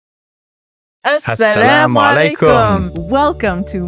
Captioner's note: speaks in Arabic